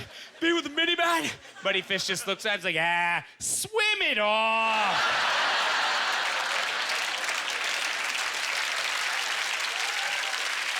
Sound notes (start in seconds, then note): 4.7 audience laughter; 5.0 applause